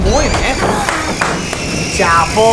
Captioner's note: claps in Spanish